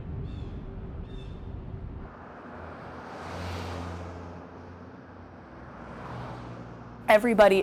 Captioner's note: birds chirping